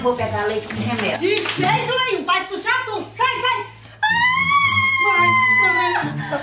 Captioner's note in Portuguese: grito